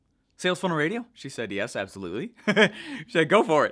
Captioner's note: laughs